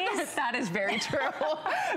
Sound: laughter

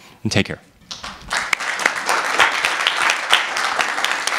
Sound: applause

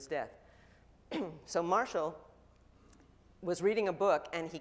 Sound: clears throat

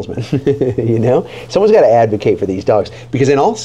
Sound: laughing

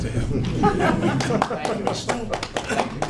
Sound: audience laughing

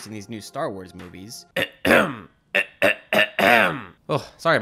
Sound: clears throat

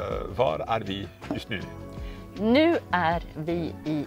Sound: speaking Swedish

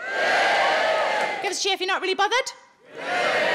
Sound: audience cheering

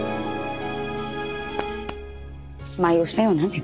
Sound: patting

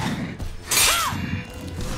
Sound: grunting

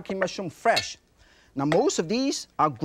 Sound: knife clinks

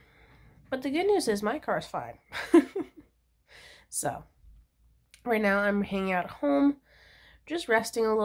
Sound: laughs

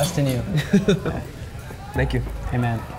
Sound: laughs

